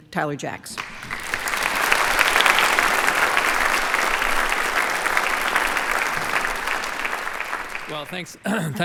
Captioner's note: applause